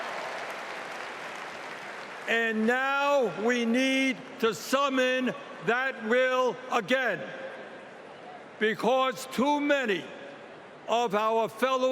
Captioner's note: cheering